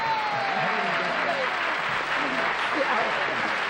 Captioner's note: chatter